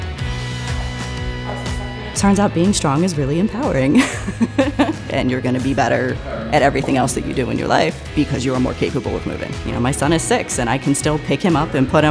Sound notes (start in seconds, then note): 0.2 intense music; 3.9 laughs